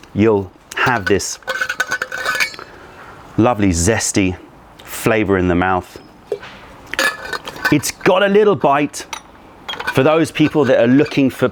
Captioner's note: sips tea; pouring tea